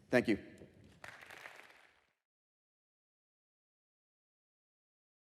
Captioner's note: applause